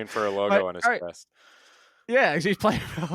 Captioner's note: laughs